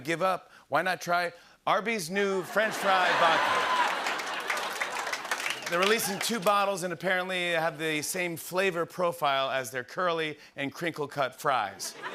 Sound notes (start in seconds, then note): 2.4 laughter and applause